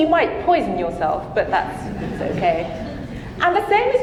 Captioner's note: audience laughing